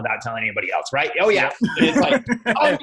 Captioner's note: laughs